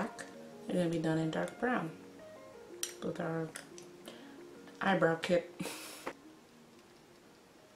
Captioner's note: snickers